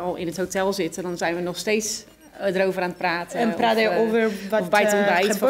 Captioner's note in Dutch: lachen